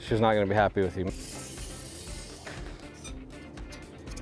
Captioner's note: measuring tape spooling; upbeat music